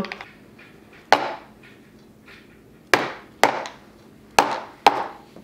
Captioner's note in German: Becher klopft auf den Tisch